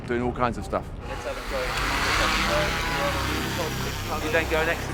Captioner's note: drone buzzing